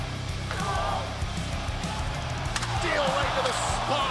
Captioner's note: crowd cheering